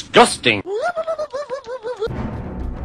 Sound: Zoidberg noises

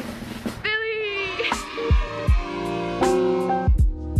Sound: cheering; chill beat

